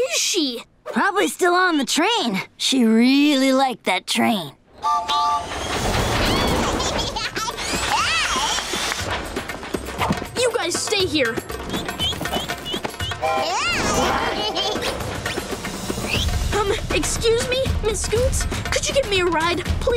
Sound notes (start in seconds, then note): 4.5 tooting; 6.6 laughing; 11.6 chirping; 13.1 tooting